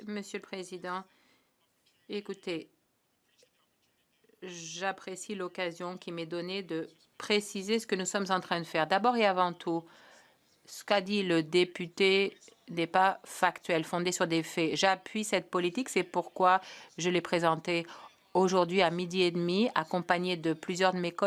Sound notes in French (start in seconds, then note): 1.1 voix de l'interprète